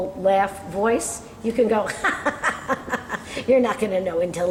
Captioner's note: laughing